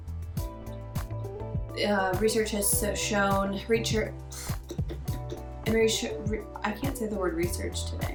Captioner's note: blows raspberries